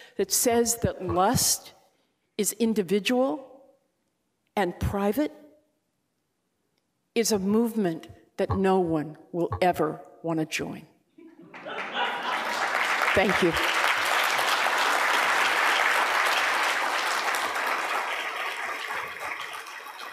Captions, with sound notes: that says that lust is individual and private is a movement that no one will ever wanna join. (laughter) Thank you. (applause)